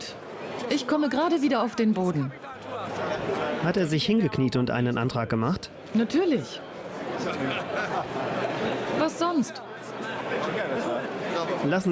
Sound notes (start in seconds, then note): 7.0 crowd chatter